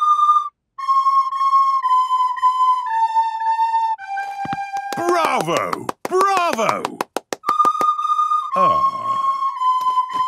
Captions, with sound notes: - Bravo! Bravo! (children continue playing) Ah.